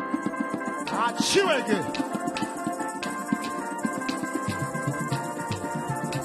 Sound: man speaking in language other than English

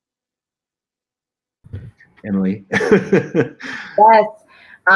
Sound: laughter

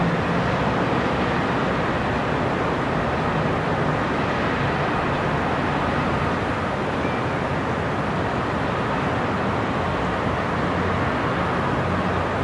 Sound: city sounds and distant cars

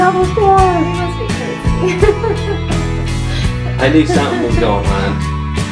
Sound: laughs

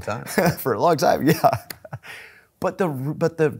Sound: laughing

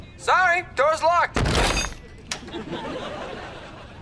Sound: clanking

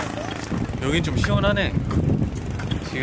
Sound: wind blowing

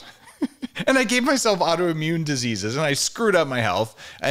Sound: chuckles

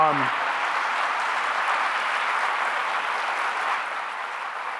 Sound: audience applauding

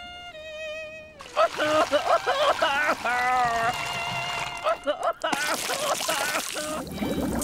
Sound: crying

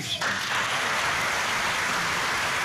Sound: clapping

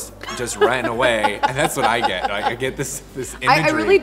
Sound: laughs

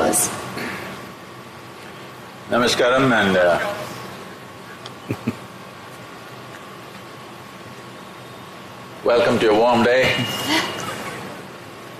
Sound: laughs

